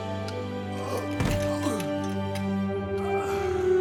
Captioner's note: light melodic orchestral music; groaning